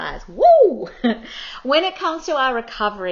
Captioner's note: chuckles